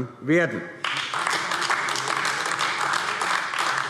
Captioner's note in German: Beifall AfD